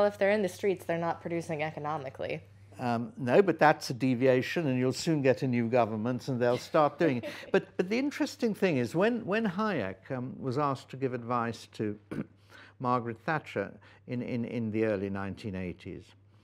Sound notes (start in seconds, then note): 6.4 student laughs